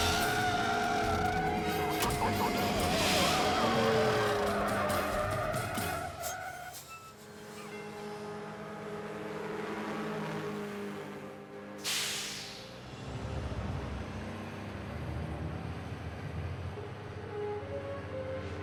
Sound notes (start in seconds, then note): 0.1 tires squealing; 4.1 dramatic music; 4.1 engine revving